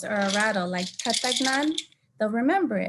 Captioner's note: speaking in native language